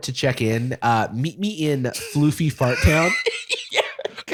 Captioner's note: laughter